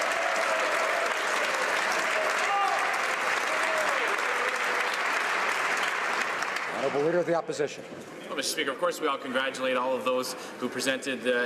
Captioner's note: some Applause